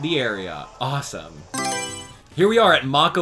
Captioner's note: Mario Selection Sound